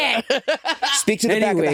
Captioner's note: Jinkx laughing